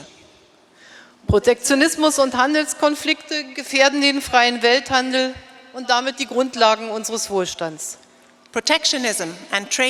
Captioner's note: speaking in German